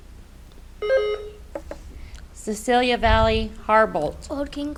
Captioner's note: buzzer beeps